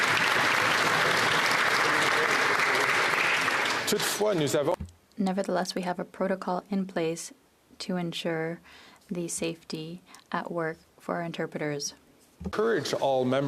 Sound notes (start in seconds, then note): 2.9 applause